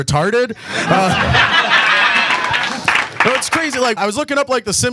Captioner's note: audience laughs